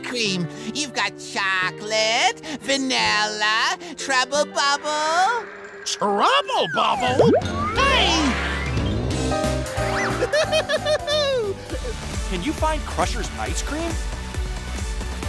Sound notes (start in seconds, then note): 10.0 laughing